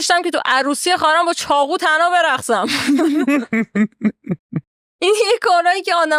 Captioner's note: laughs